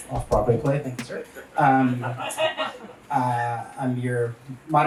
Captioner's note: audience laughs